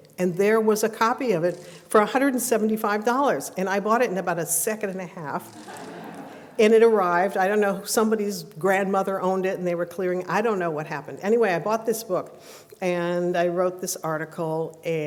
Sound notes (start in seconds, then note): 5.5 laughter